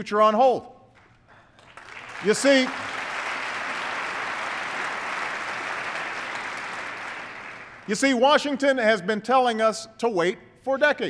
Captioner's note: applause